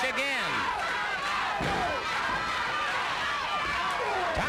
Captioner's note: crowd yelling